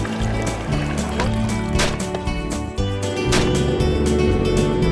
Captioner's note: gunshots; boat motor